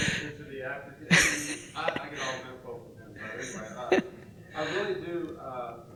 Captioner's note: murmurs